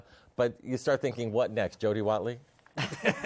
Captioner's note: laughter